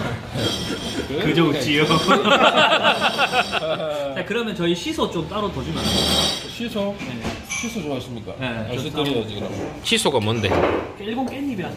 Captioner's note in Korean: 웃음